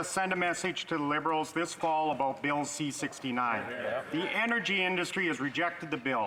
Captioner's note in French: voix de l'interprète